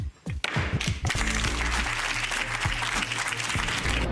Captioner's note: audience applauding; dynamic upbeat music